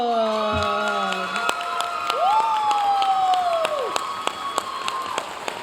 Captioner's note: audience cheering and applauding